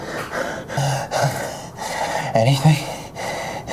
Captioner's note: Miles pants